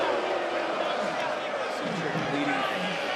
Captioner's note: crowd boos